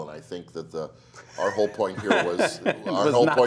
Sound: Bale laughs

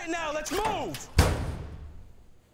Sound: door slams

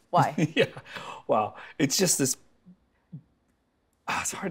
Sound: laughing

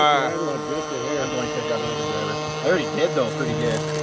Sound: chattering

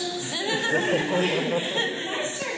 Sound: laughter

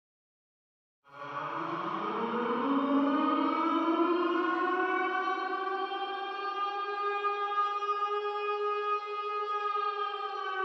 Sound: sound of scary siren

